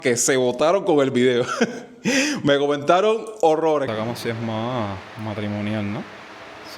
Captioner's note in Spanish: risas